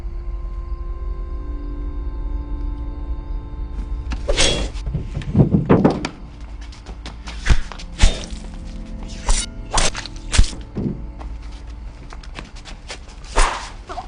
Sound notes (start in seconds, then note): 4.3 metallic whooshing; 7.9 thudding blows; 9.3 metallic whooshing